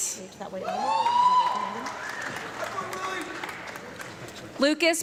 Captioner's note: audience clapping and loud screaming